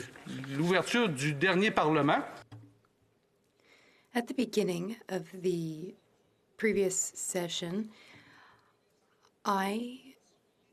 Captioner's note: speaking French